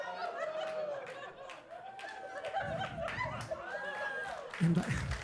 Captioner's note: audience applauding and laughing